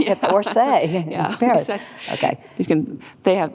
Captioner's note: laughs